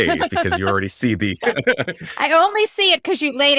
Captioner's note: laughing